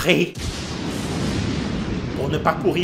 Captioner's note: flash noise